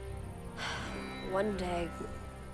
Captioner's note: sighing